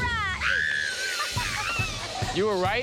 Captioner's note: screams